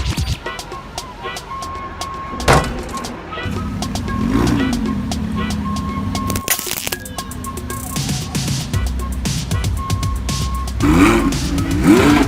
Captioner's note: crushing noise and engine revs up